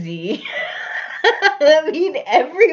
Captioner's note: laughs